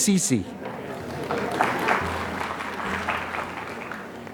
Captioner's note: applause